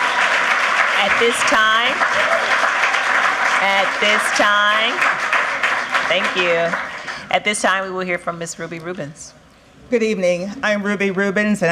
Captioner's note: cheers and applause